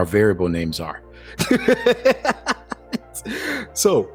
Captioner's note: laughing